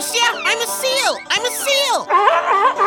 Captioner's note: barks like a seal